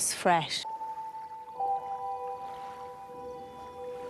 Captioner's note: waves lapping gently